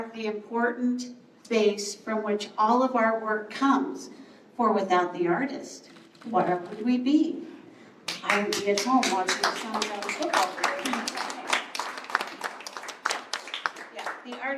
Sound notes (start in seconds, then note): 8.0 applause